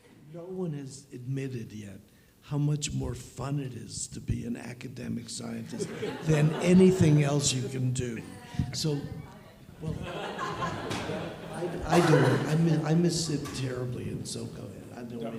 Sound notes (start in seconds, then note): 5.6 audience chuckles; 9.2 audience laughs